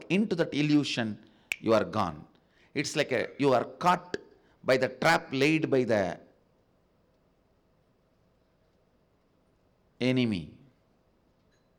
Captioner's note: snap of fingers